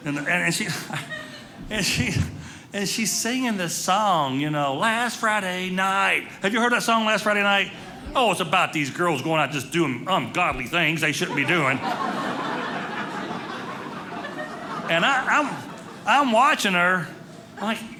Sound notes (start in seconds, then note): 10.8 audience laughing